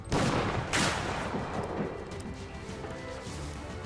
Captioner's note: gunshots banging